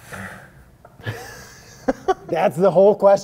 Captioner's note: laughing